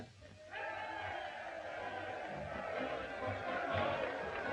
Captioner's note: crowd cheering